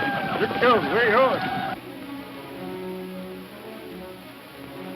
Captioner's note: speaking in a foreign language